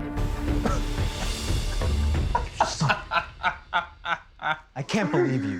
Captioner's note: laughing